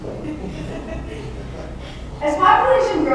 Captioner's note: laughter